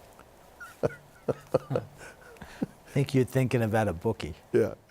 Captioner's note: laughter